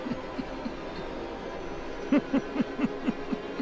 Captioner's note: laughing